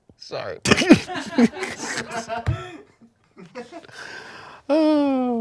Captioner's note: everyone laughs